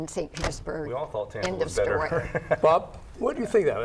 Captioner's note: laughs